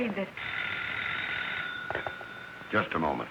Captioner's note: phone ringing